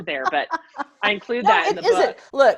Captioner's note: laughs